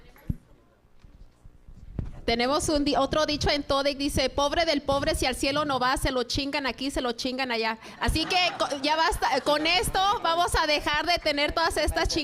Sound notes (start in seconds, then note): 3.8 speaking in Spanish